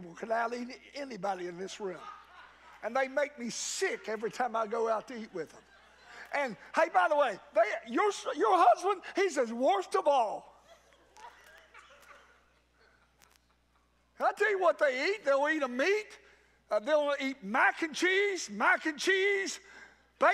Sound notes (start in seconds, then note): 11.0 congregants laugh